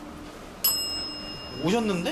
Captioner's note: 再び鳴るベル